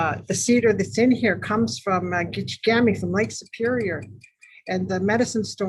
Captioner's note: in foreign language